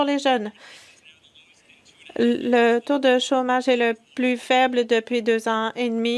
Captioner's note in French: voix de l'interprète